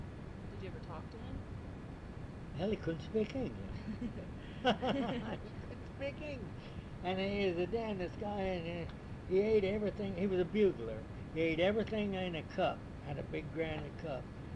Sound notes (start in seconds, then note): 3.1 both laugh